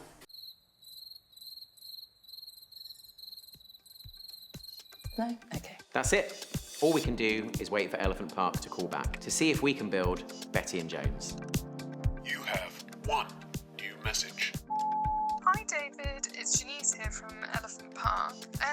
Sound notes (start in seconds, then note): 0.3 crickets; 12.2 voicemail voice; 14.7 voicemail beep